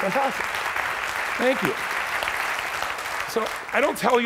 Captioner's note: clapping